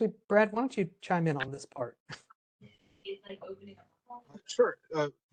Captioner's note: laugh